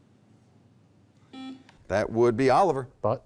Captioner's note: beep